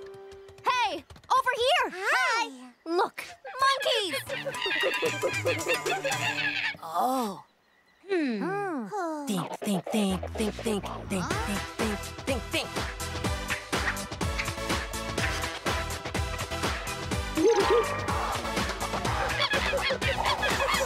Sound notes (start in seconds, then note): 3.3 monkey cries; 12.9 rhythmic music playing; 17.4 monkey cries